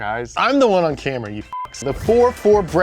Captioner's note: beep